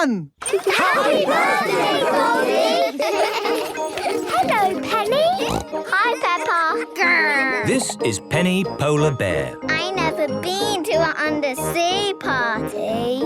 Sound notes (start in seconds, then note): 3.0 laughter; 3.6 snorting